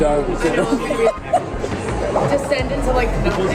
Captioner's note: laughs